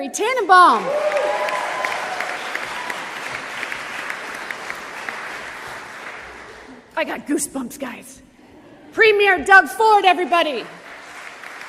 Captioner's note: applause; applause